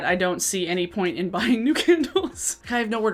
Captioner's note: chuckles